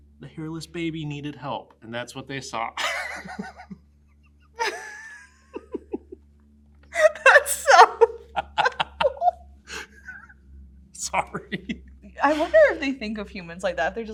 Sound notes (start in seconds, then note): 2.9 laughs